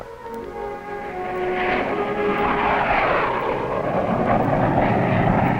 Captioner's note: plane engine roars